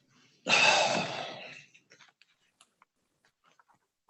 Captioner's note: sighs